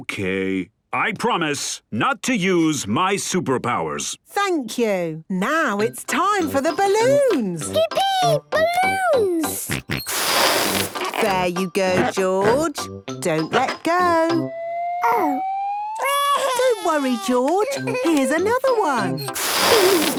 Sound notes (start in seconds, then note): 9.6 George snorts; 16.0 crying; 20.0 George giggles